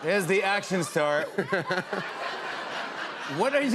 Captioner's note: laughter